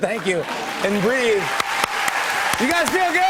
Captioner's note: cheers and applause